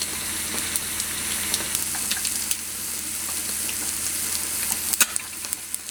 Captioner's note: sizzling